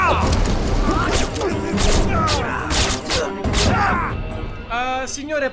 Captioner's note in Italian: spari di arma silenziata ovunque